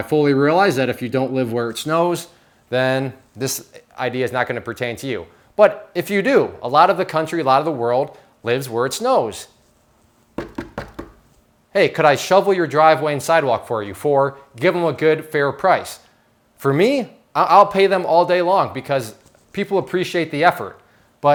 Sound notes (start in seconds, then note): 10.4 knocking